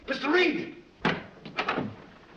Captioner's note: door opens